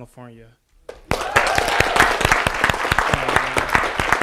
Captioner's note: audience applauding